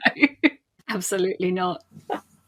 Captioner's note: laughing